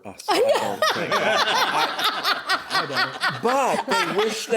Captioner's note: laughing